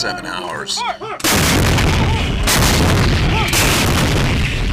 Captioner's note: canon fire